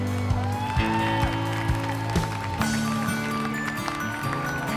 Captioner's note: cheering and applause